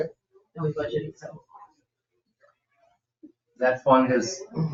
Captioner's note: speaks distantly